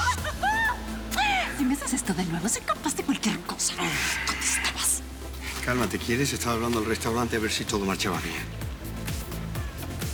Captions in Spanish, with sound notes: >>¡REINALDO! [Ríe] [En voz baja] SI ME HACES ESTO DE NUEVO, SOY CAPAZ DE CUALQUIER COSA. ¿DÓNDE ESTABAS? >>CÁLMATE, ¿QUIERES? ESTABA HABLANDO AL RESTAURANTE A VER SI TODO MARCHABA BIEN.